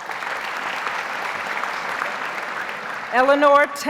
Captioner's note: audience applauds